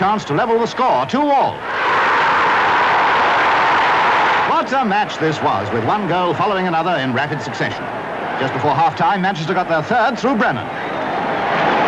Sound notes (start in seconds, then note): 1.5 crowd roaring